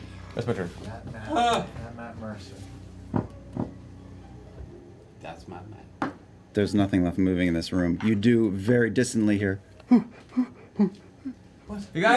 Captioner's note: huffing breaths